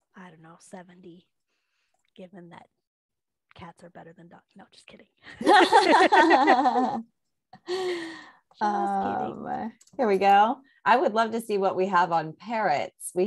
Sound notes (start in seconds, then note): 5.4 both laugh